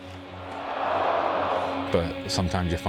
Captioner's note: cheering